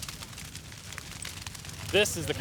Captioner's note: fire crackling